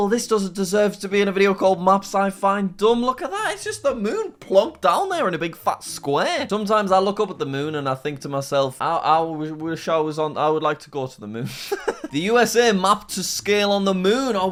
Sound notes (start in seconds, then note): 11.6 laughing